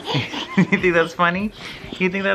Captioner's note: laughs